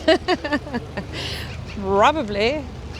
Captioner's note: laughing